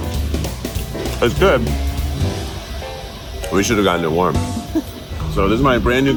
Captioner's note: laughs